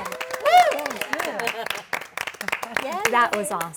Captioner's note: applause